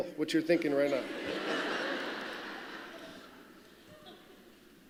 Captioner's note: laughter